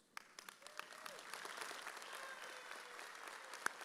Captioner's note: audience cheers